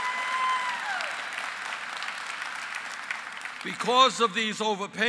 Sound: applause

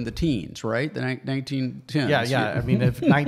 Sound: laughs

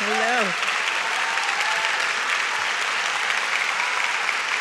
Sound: audience claps

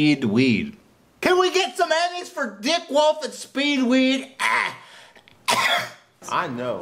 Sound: Ethan Klein's cough™

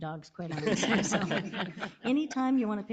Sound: all laughing

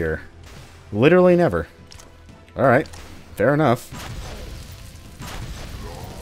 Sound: Master Blaster fwooshing

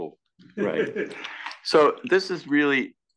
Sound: laugh

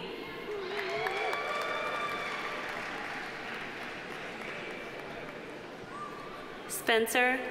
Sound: audience cheering; audience applauding

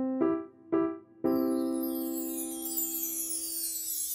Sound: chimes

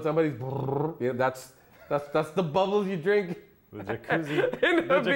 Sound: makes bubble sounds

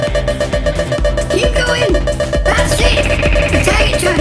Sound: drone laser blasts

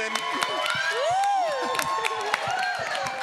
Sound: audience cheers

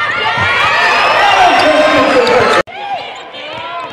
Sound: cheering and applause

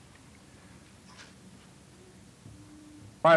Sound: silence

